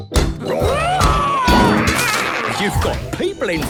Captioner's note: all roaring